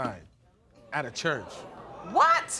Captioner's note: audience gasping